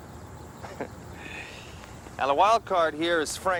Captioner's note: chuckling